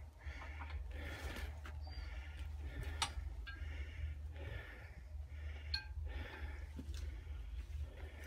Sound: heavy breathing

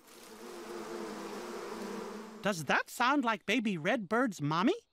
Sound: buzzing

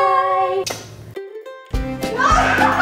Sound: kiss; upbeat music

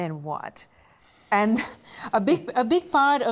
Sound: chuckling

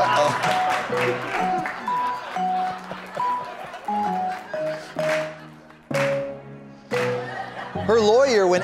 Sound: laughter; clapping

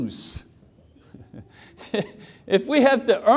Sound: laughing

